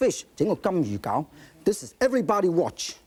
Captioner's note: speaking in foreign language